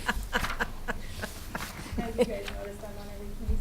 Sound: chuckling

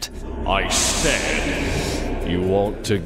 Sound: echoes

